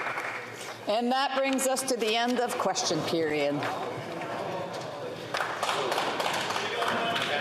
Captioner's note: some Applause